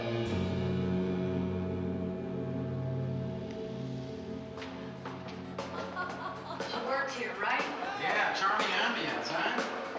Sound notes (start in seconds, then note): 5.4 laughing